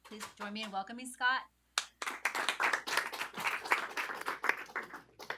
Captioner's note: applause